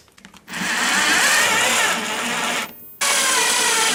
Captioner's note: drilling